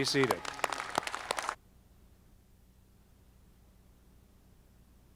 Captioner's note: audience clapping